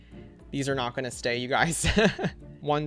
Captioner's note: laughs